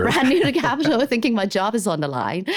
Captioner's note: laughs